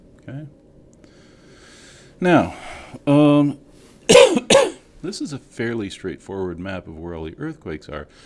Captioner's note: cough